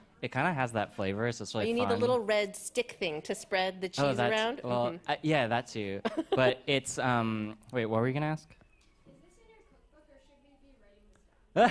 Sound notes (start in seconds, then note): 6.0 chuckles